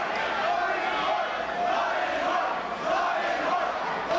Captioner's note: crowd chanting